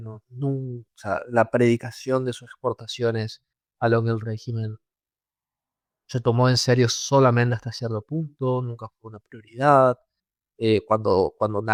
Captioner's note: Italian